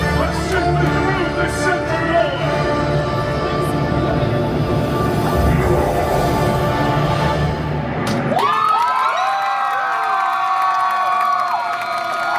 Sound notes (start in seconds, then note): 5.5 Dormammu screaming; 8.1 guests cheering and applauding